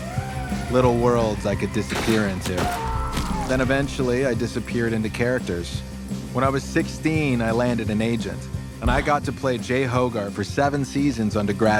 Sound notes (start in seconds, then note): none